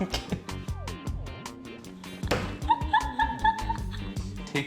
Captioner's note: more laughter